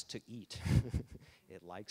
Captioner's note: laughing